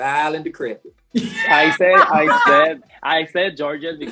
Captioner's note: laughing